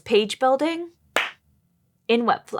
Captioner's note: clap